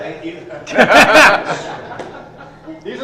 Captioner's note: laugh